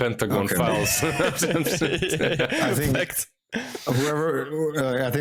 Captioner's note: laughs